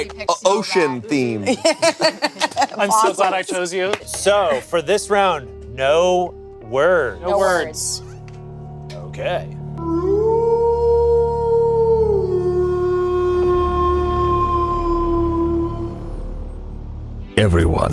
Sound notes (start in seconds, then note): 0.2 laughs; 10.0 werewolf howling